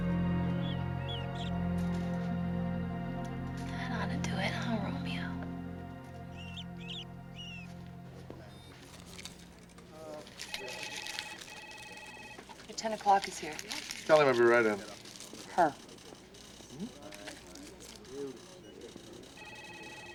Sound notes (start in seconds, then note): 0.9 mouse squeaking; 10.3 phone ringing; 17.4 people chattering